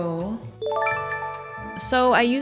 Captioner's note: chime